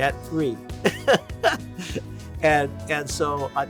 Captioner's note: laugh